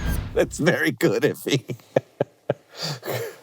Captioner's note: everyone laughing; laughing